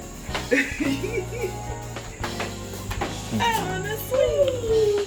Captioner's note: giggling